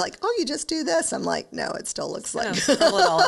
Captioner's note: laughs